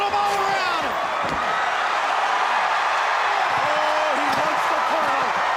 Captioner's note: crowd cheering